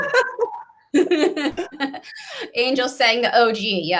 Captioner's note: both laughing